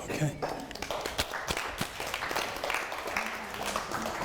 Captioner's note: audience applauding